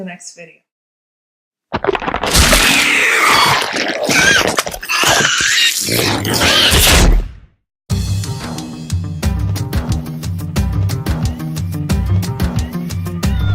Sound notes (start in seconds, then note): 1.9 alien screaming as screen breaks